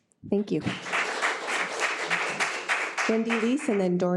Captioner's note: audience clapping